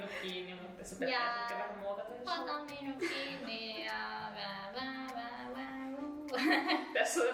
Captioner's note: indistinct humming